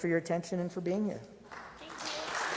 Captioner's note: applause